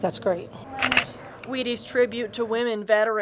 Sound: camera clicking

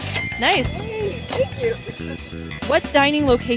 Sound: ding sound

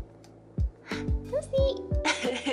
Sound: gasp

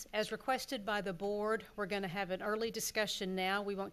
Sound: none

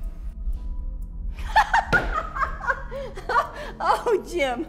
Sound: laughs

